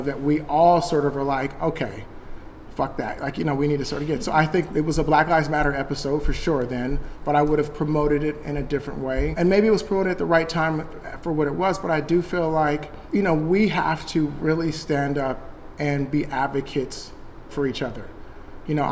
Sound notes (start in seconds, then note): none